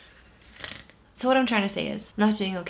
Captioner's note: snorts